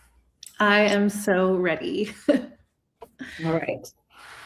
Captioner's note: chuckles